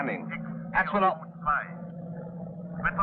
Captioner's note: voices on the radio